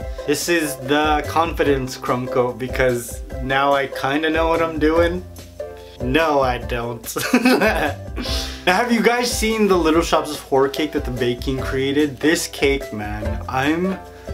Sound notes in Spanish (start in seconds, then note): 7.2 Risas